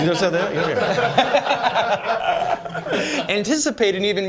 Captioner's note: laughter